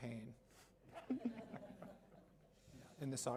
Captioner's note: laughter